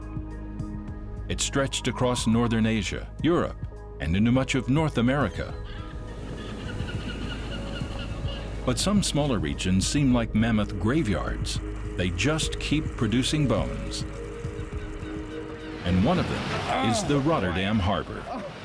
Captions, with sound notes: It stretched across northern Asia, Europe and into much of North America. [birds cry] But some smaller regions seem like mammoth graveyards. They just keep producing bones. And one of them is the Rotterdam harbor.